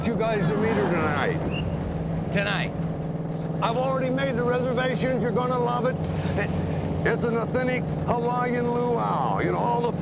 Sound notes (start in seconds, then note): none